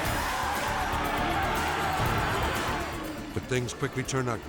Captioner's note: crowd cheering; upbeat music